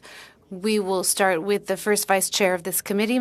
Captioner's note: speaking French